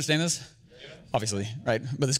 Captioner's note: audience murmuring in agreement